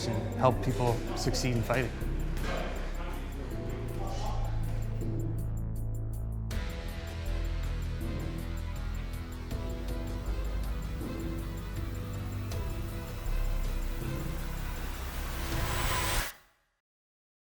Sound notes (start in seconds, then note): 2.7 background chatter; 5.8 intense music